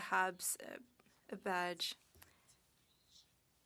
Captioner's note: speaking French